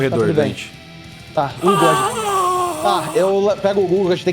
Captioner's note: Sukkal's grunt